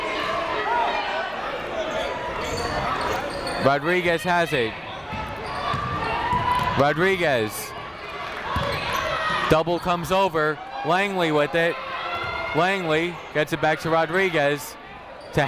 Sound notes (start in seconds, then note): 0.0 people shouting in the crowd